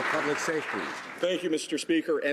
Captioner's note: some Applause